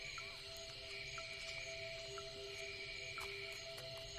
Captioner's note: insects buzzing; tense music